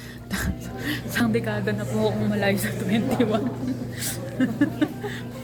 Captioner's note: laughter